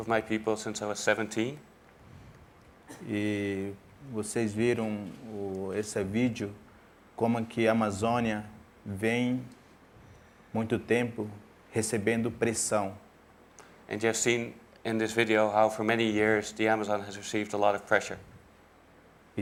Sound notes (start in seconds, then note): 7.2 speaking in portuguese